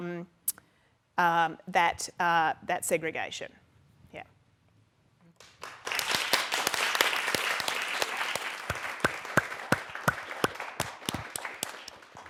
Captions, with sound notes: that segregation. Yeah. (audience clapping)